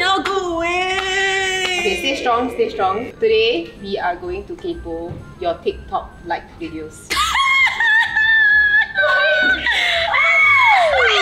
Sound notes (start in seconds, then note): 7.1 laughs + Screams